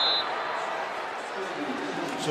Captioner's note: whistle